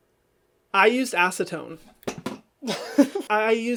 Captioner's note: laughs